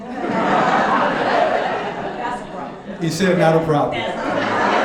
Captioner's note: audience laughing